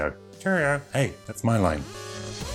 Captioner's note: puppet voice